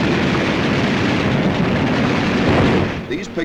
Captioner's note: heavy gunfire